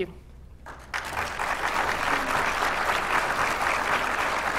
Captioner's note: applause